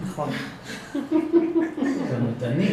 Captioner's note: laugh